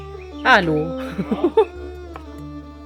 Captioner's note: laugh